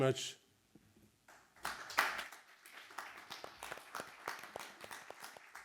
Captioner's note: audience applauding